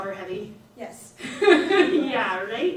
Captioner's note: laughs